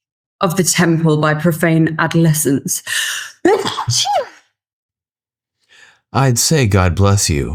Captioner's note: gasping